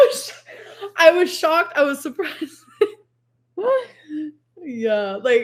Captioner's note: laughs